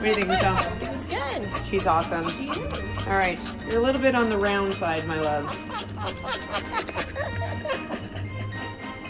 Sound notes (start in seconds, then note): 3.4 dog panting; 5.9 dog panting